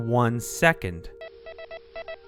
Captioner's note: beeping